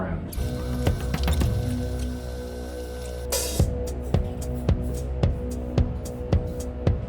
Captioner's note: tense music; videotape squealing